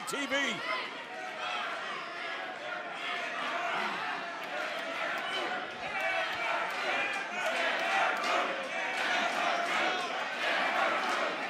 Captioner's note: crowd chatter